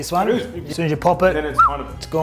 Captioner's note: whistles